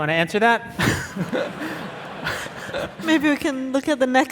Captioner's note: audience laughing